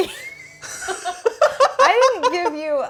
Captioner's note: both laughing